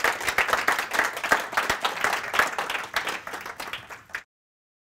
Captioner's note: audience applauding